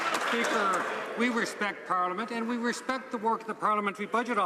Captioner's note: some Applause